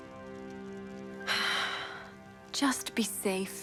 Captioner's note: soft music; Lienda sighs